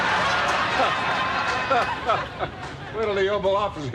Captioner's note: laughing